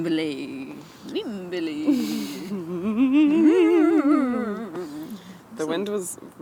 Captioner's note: make ghost noises